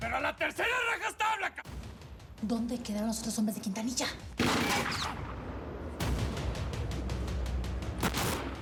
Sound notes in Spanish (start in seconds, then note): 4.4 siguen los disparos